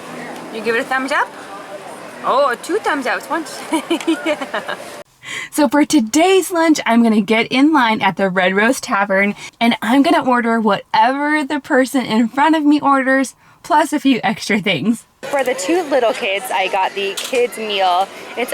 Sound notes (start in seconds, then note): 3.6 laughing